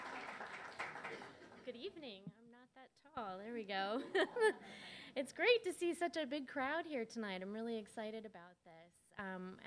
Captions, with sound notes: - Good evening, I'm not that tall, there we go (laughs). It's great to see such a big crowd here tonight, I'm really excited about this.